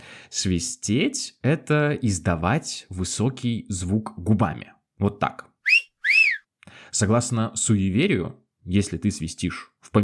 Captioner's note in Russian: негромко свистит